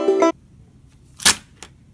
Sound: slams pens on desk

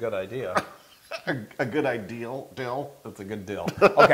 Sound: laugh

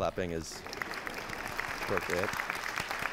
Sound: applause

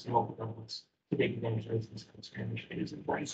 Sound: speaking faintly

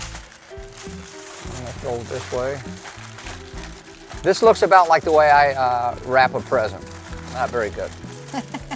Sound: laughs

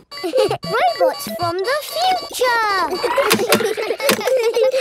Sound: kids giggling; laughs

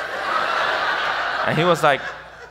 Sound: audience laughs

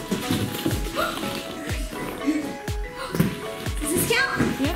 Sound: gasping

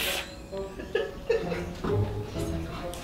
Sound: woman laughs

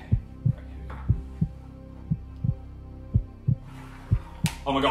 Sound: heart thumps

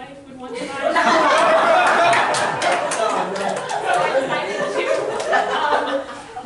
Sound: loud laughter

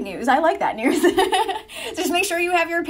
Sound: laughs

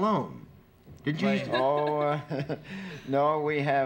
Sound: laughs

